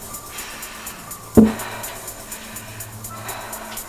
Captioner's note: tapping